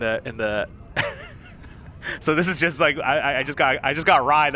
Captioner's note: laughs